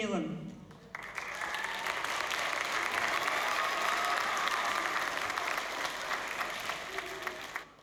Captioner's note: applause and cheering